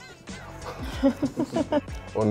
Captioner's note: laughter